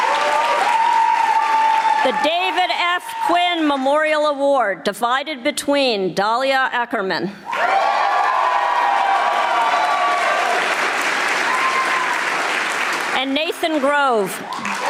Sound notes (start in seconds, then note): 7.5 audience applauding